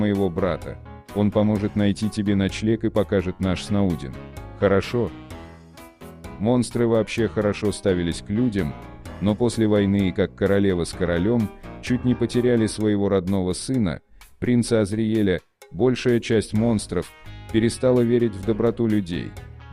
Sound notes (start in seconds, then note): none